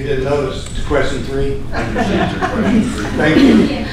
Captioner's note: laughter